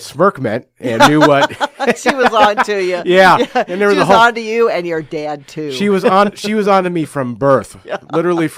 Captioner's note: laughs